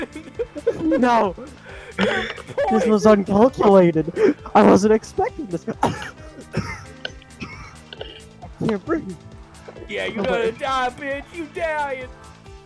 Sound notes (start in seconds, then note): 5.6 coughs